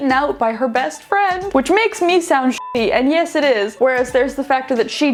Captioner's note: beeping